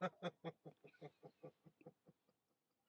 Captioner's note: laughing